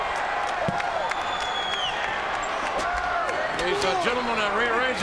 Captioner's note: crowd cheering